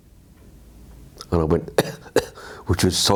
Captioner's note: coughs